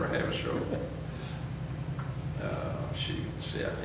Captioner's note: chuckles